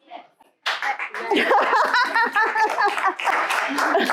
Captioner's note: applause